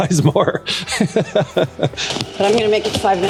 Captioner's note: laughter